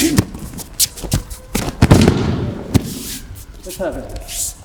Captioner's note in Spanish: sonido desplazamiento en tatami y caída